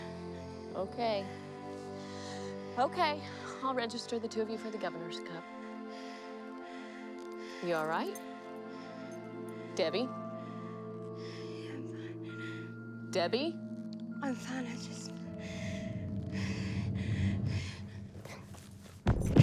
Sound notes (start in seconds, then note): 7.3 Debi panting; 15.7 foreboding music